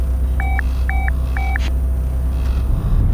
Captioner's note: beeps